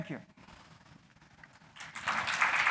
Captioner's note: applause